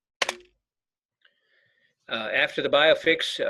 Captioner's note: keyboard clicking